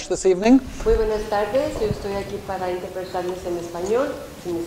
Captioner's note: speaking Spanish